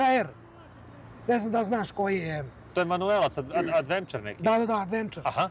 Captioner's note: coughs